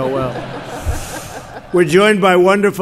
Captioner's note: laughter